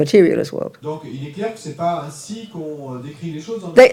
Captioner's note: audience member speaks in French